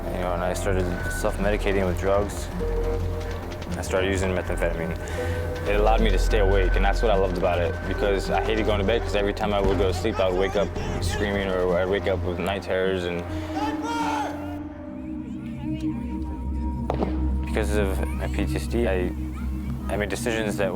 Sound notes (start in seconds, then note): 13.3 people shouting; 15.8 gentle music; 15.8 kids chattering